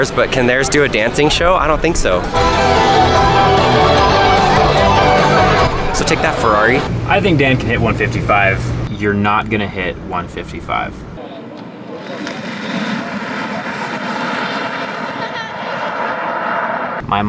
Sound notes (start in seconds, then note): 2.2 rock music; 11.5 whirring; 15.2 laughs